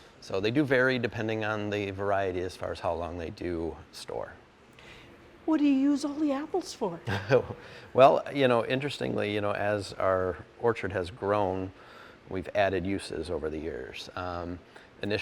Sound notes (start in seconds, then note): 7.0 laughing